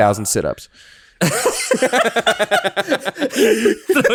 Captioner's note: laughing aloud